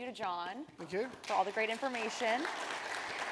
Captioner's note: audience applauds